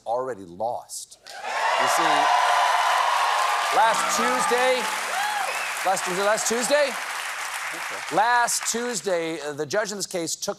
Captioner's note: cheers and applause